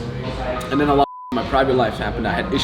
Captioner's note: beep